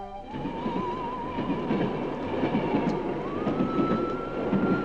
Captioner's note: eerie music; train rumbling